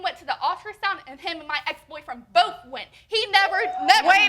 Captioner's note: audience hooting